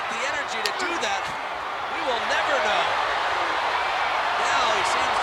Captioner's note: hands thudding